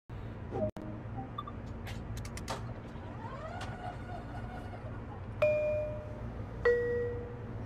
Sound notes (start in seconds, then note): 1.6 doors opening; 5.4 bell chimes